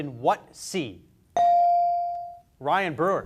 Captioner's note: beep